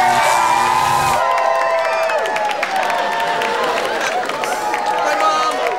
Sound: cheering

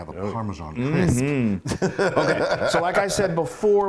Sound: laugh

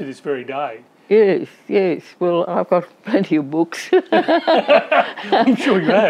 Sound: laughs

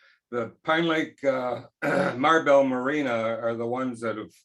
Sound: clears throat

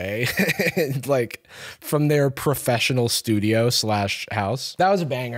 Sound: laughs

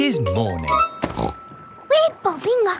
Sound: snorts

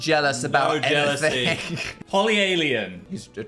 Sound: laughs

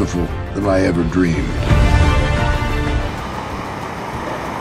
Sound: cars driving

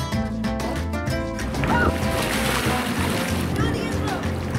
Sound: water splashed

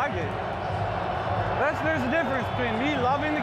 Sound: speakers blaring

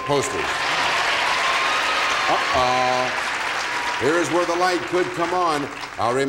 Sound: applause

